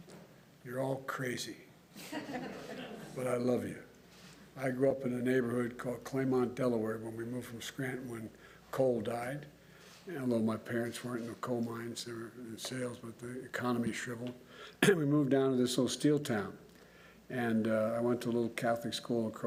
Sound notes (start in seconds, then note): 2.0 laughter